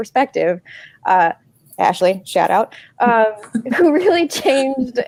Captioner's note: laughing